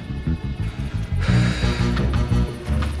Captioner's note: exhales